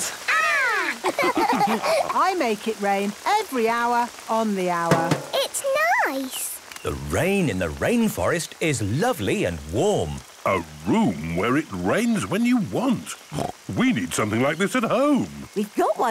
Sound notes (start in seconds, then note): 0.8 all laughing; 4.9 taps